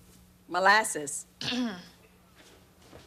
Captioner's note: clearing throat